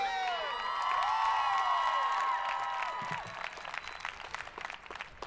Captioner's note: audience applauding